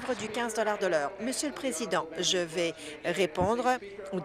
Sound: applause

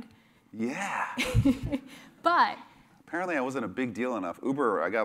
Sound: laugh

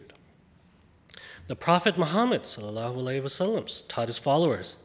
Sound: speaks foreign language

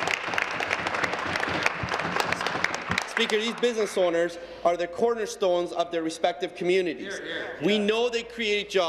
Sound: applause

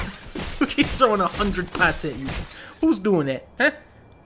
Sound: laughing; laughs

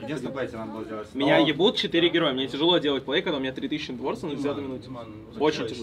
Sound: DM speaking in Russian

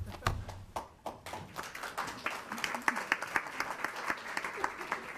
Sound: attendants clapping

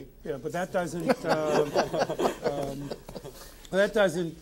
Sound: all laughing

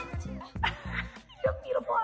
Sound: laughs

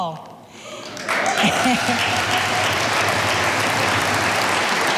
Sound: audience applauding

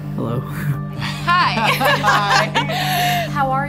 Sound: laughing

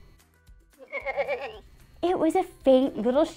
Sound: sheep bleating

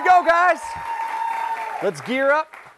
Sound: cheers and applause

